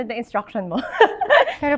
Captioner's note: laughs